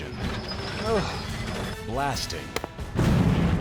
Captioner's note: clanking sound